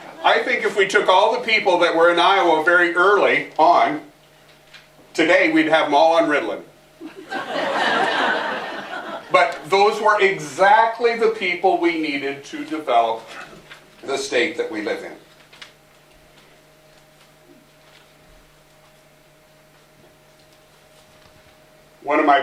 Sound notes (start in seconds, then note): 7.0 laughter